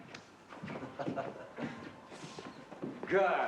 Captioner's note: chuckling